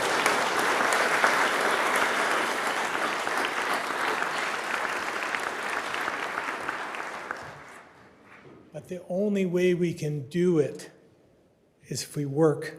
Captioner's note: applause